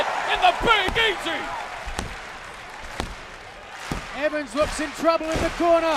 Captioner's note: crowd cheering